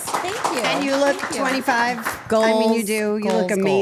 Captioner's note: group cheering